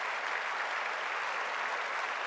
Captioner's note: applause